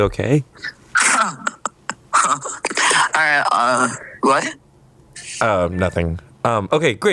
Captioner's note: chuckles